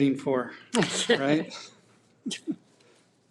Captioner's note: people laughing